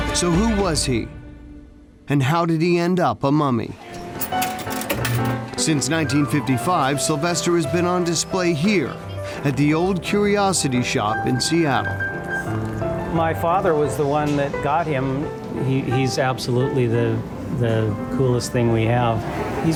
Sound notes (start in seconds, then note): 4.0 coins jingle; 4.5 jazzy piano music; 12.3 jazzy piano music continues